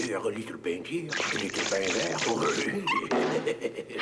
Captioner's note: chuckles